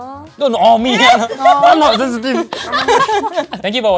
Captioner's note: laughs